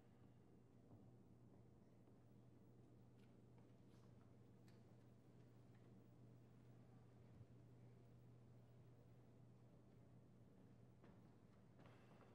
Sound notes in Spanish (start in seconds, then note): none